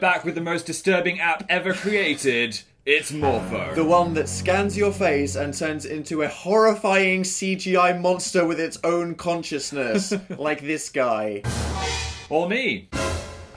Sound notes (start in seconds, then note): 2.1 laughs; 9.9 chuckles